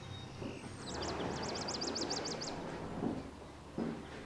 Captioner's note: birds chirping